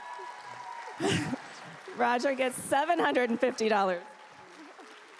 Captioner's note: applause